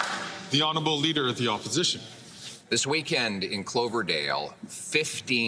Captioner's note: some Applause